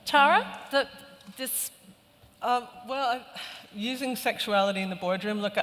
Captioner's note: none